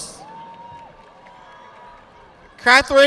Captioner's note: audience applauding